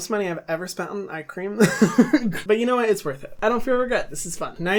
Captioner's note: laughing